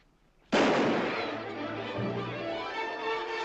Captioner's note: gunshot; children shouting